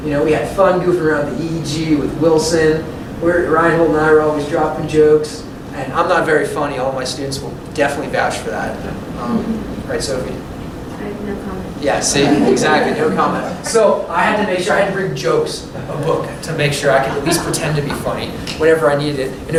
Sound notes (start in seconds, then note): 12.7 laughter